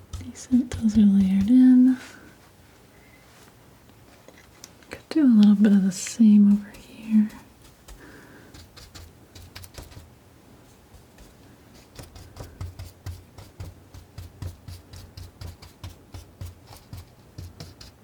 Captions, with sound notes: These are layered in. Could do a little bit of the same over here. (scratching)